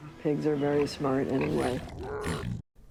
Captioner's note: Piglin snorts